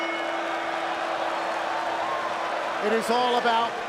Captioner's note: bell ringing; crowd cheering